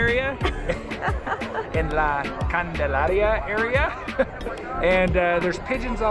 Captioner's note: laughs